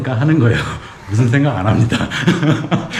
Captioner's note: laughs